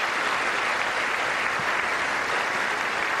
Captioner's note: applause